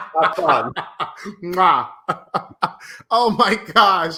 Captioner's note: laughing